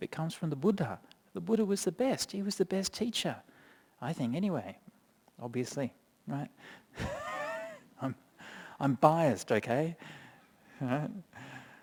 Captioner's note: chuckles